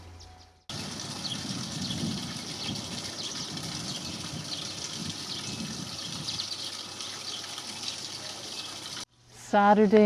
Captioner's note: water running